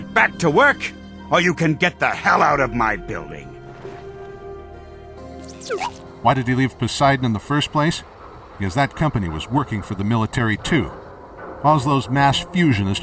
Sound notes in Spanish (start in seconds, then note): 5.5 Beep inquisitivo